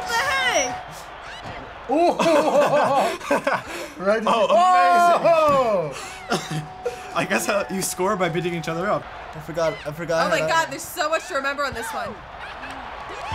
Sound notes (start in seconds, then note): 1.8 laughs